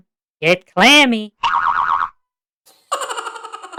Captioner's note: insert sound effect: canned laughter